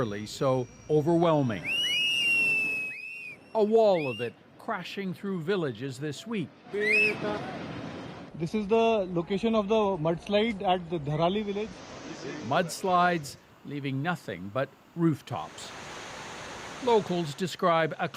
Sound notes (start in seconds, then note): 3.3 screaming; 12.6 speaking Alternate Language